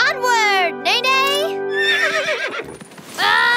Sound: neighing

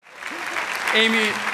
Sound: applause

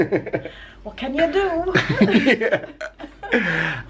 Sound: both laugh

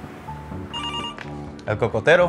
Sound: phone ringing

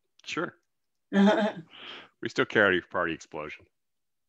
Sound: chuckles

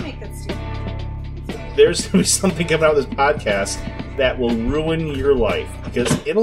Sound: laughing

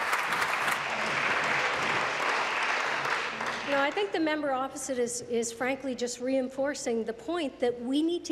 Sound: applause

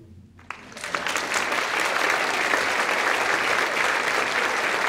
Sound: audience applauding

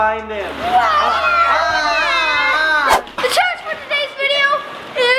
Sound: mock screaming; growling

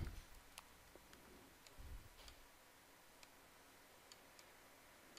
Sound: mouse clicking

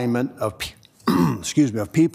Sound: throat clearing

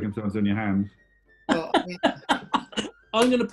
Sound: laughter

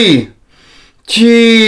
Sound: inhales

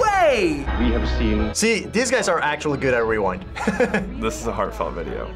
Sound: laughs

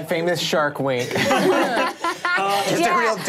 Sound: all laughing

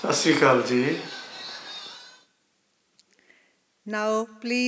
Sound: man speaking non-English greeting

